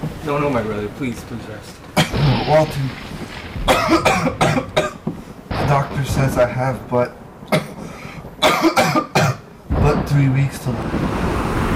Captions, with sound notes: No-- no my brother, please just rest. But Walter... *dramatic coughing* The doctor says I have but-- But 3 weeks to live...